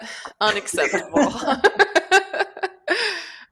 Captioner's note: laughter